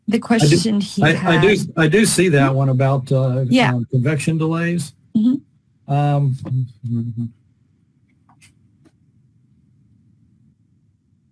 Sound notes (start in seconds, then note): 5.9 hums